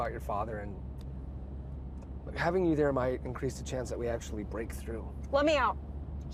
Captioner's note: none